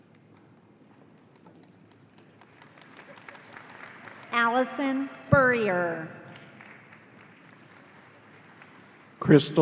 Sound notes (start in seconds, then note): 2.0 audience applauding